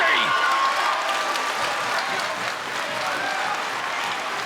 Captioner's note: crowd cheering